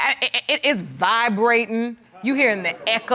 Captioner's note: stammers